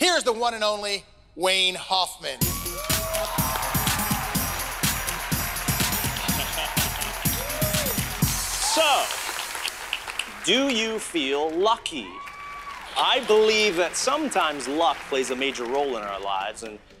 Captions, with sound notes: Here's the one and only Wayne Hoffman. (audience cheering) (bright upbeat music) - (chuckling) So do you feel lucky? - Whoo! - I believe that sometimes luck plays a major role in our lives,